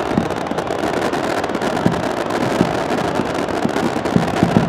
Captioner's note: fireworks popping